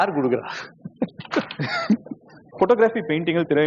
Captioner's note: laughs